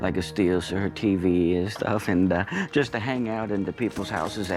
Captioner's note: chuckles